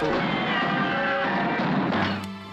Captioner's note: pistol firing